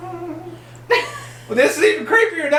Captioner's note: laughing